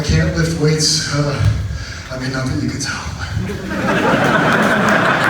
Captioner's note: speaks breathlessly; audience laughs